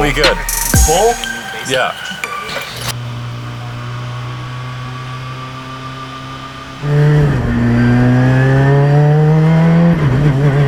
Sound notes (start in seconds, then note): 3.2 engine noise